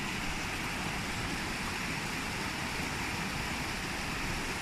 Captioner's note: loud stream splashing